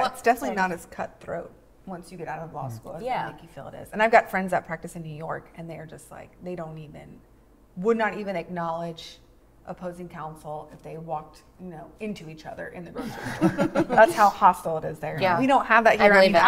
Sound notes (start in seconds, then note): 13.0 laugh